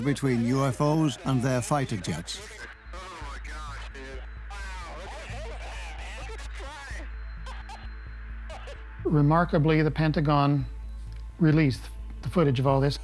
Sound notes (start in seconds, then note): 7.4 he laughs